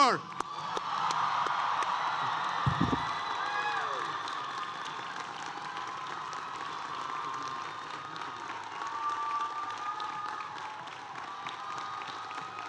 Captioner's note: applause